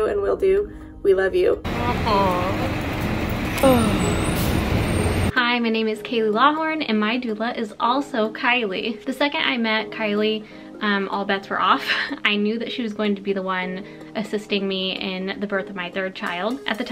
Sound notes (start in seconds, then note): 3.6 breathes loudly; 11.6 chuckles